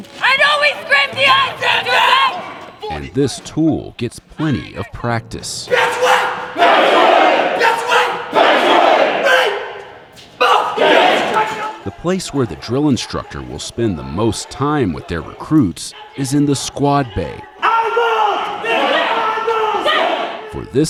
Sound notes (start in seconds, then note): 0.2 shouting; 6.4 recruits shouting; 10.4 recruits shouting; 17.8 shouting